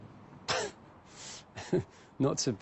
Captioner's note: chuckles